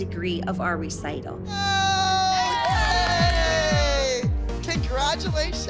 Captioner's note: all cheering